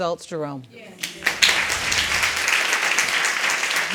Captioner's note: audience applauding